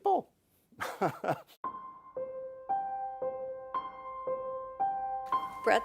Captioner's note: laughs